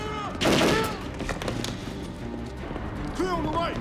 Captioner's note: gangsters yelling; gunfire clattering